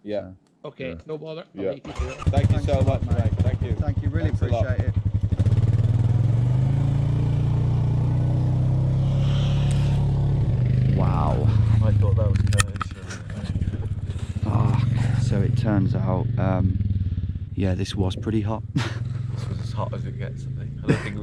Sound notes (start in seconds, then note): 6.8 engine rumbling; 9.1 sighing